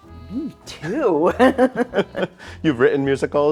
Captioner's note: laughing